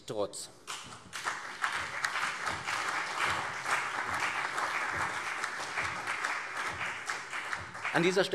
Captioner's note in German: Beifall CDU und BÜNDNIS 90/DIE GRÜNEN